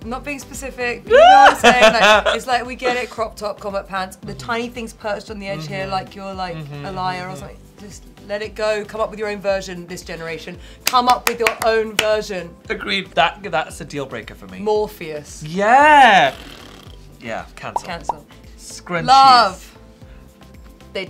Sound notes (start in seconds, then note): 1.2 Tan giggling; 16.2 blows raspberry